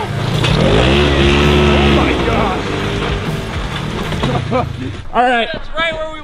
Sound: engine roars

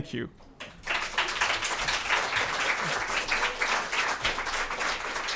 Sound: applause

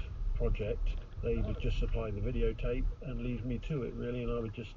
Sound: radio

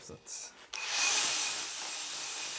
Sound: whirring

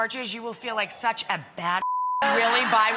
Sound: beep

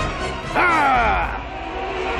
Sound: grunts

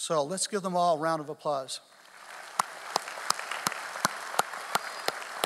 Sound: audience applauding

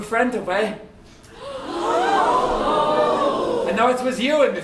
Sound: audience gasps

